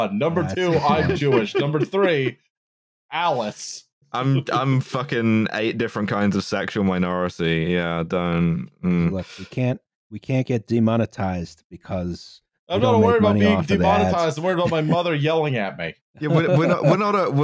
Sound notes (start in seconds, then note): 3.5 chuckles; 16.2 laughs